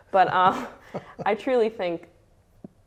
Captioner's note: laughs